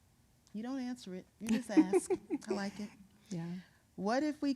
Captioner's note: chuckling